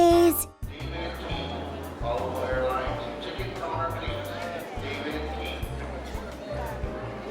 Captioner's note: crowds murmuring; airport intercom echoing